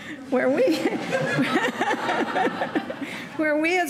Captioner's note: laughing